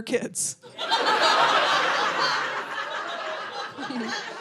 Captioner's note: audience laughing